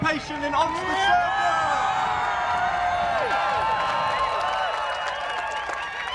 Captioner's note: crowd cheering and applauding